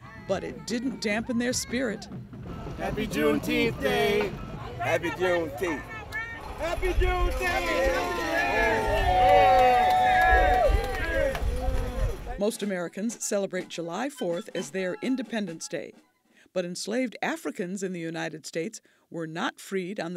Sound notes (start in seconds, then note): 6.7 crowd